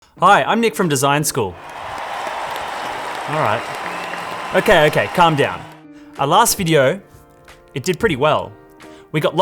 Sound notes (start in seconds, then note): 1.5 audience cheering